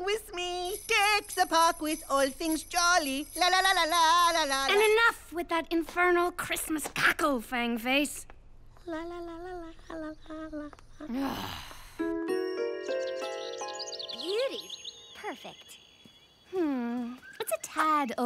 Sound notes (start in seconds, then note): 8.3 sighing